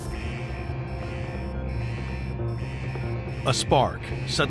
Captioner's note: alarms ringing